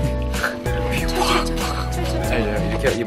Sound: burst!!

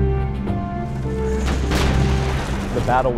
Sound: weapon firing

